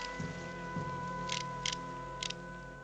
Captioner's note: gun clicking